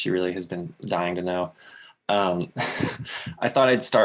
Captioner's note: chuckles